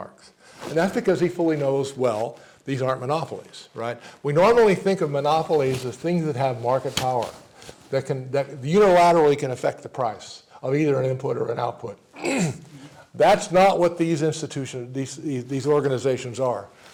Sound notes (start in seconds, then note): 12.1 cough